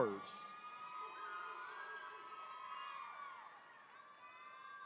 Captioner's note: attendees cheering